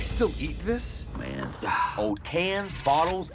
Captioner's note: sighs